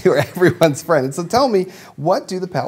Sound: chuckling

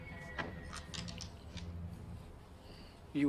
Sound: locks clicking

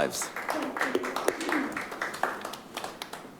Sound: clapping

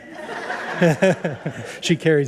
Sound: audience laugh

